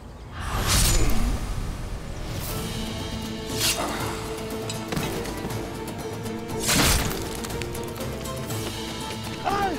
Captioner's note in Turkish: Dövüş sesleri